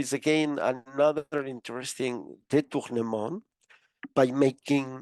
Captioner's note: speaking foreign language